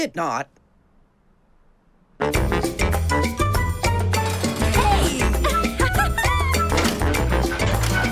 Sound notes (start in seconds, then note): 4.7 laughing